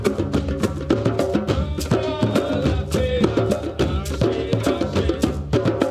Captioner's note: chanting in foreign language